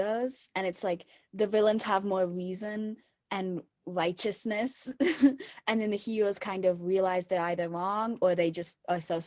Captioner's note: chuckle